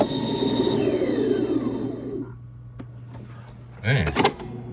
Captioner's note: tape recorder whirring